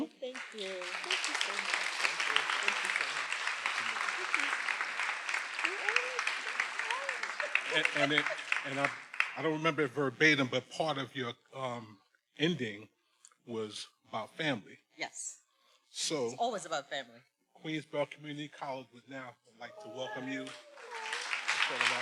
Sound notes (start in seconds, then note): 3.5 everyone applauding; 5.7 speaks faintly